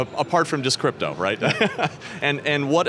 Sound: laughs

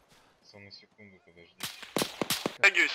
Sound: very quiet

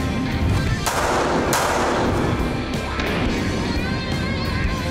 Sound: gunshots

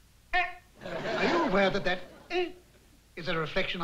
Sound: exclaims

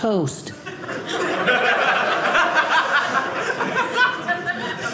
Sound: audience laughing

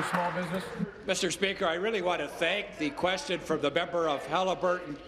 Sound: applause

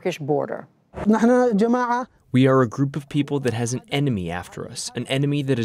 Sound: through translator

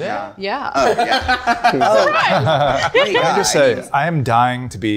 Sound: group laughing

